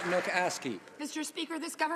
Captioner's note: some Applause